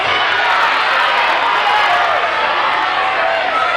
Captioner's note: crowd cheering